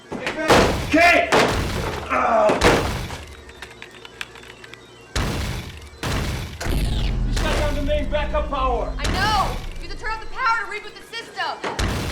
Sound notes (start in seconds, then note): 1.0 grunts; 4.3 thunderous crashes